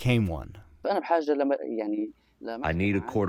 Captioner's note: through translator